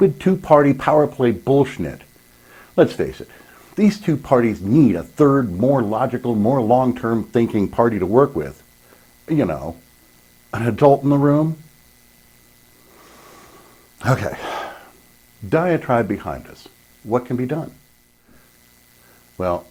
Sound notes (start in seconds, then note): 12.8 sigh